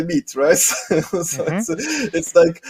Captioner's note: laughs loudly